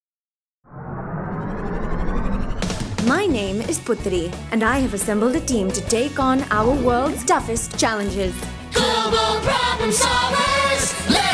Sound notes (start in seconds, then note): 0.8 engine whirring